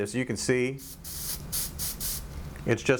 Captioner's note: aerosol spray noise